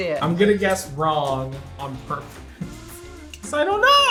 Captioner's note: laughs